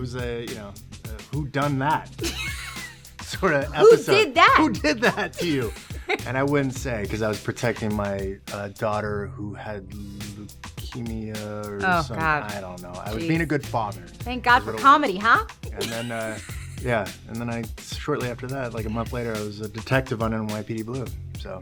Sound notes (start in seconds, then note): 3.2 laughing